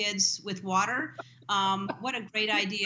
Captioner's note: laughter